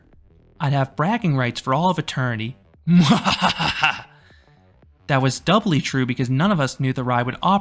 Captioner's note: evil laugh